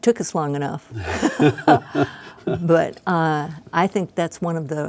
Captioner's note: laughing